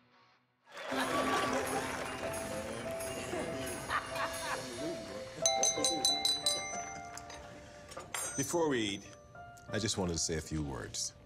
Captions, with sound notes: (applause) (light holiday music) (clinks glass) - Before we eat, I just wanted to say a few words.